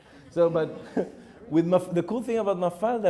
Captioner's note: audience laughing